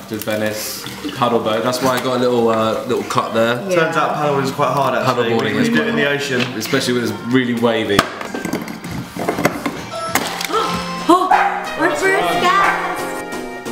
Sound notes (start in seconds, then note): 9.9 doorbell rings; 11.2 dog barking